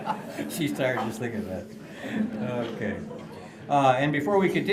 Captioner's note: laughter